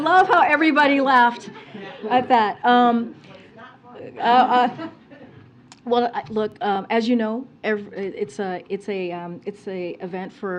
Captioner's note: laughter